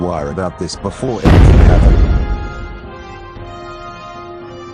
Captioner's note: boom!